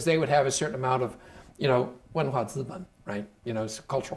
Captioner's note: speaking Chinese